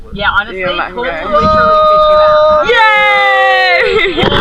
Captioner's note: you can hear cheering again